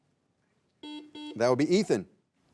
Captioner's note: buzzer buzzing